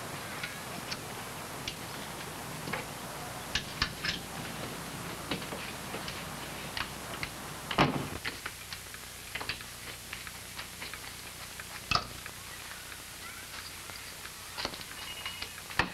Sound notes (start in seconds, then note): none